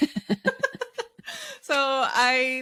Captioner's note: laughing